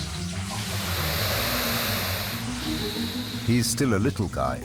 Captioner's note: komodo hissing